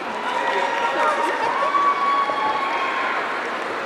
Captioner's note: audience cheering